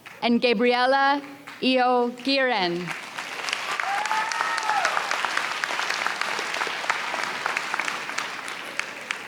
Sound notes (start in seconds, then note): 2.8 audience cheers and applauds